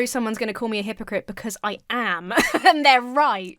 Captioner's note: laughs